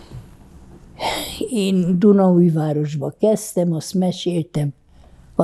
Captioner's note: sighing